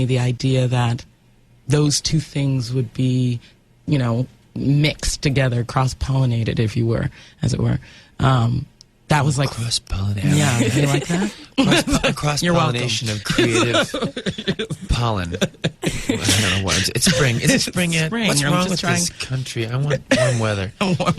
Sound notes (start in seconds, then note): 10.3 interviewer laughs; 13.0 laughs